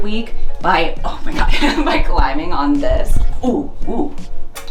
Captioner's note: laughing